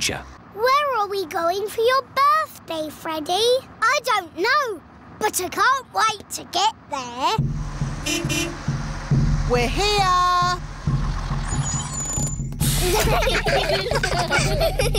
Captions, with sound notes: Where are we going for your birthday, Freddy? I don't know. But I can't wait to get there. (HORN BEEPS) We're here! (CHILDREN GIGGLING)